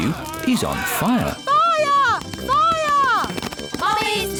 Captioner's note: alarm blares